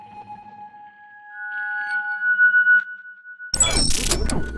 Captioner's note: squeaky effect